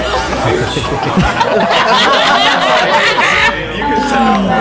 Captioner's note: cheers